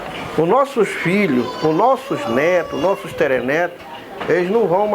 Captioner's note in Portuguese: choro de criança